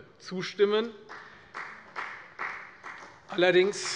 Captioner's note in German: Beifall bei der FDP